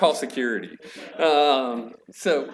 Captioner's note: chuckling